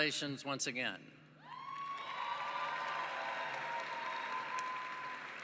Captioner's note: cheering